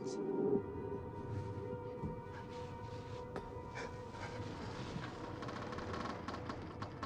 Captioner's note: Faraday panting; ship creaking